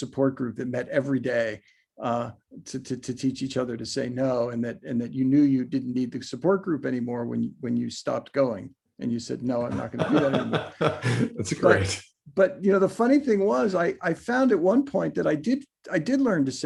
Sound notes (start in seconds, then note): 9.7 laughs